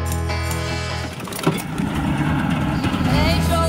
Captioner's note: boat engine start sound